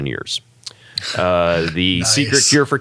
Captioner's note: laugh